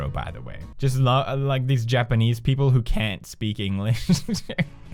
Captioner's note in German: lacht